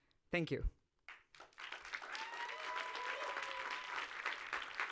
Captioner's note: audience applauds